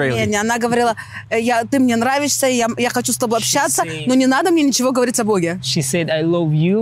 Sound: speaking in foreign language

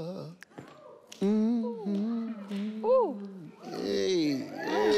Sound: humming

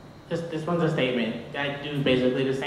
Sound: voiceover

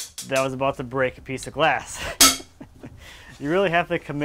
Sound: laughing

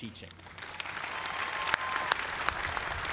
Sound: applause

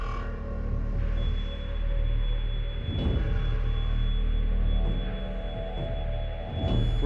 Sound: continuous beep

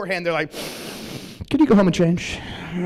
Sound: sniffs

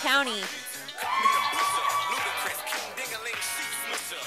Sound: sound of cheers from audience

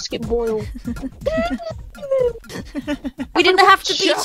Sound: laughs; crying noises

